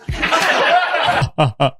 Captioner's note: group laughs